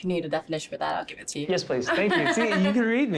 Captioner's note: laughs